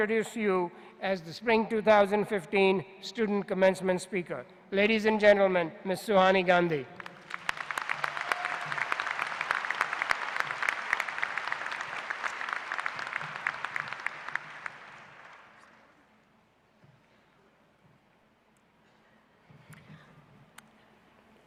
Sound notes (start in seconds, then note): 6.9 applause